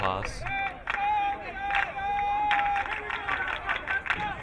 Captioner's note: crowd clapping